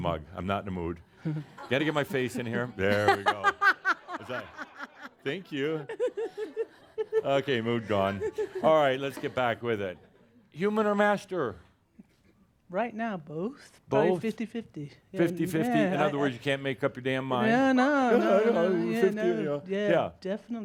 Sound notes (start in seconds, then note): 1.2 laughs loudly again and audience laughter; 18.8 mimicking her